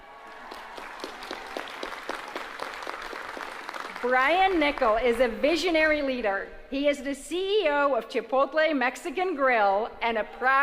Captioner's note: applause